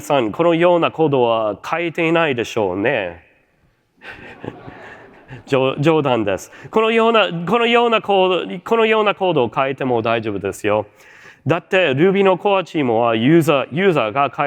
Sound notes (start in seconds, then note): 4.0 chuckles; 4.0 laughter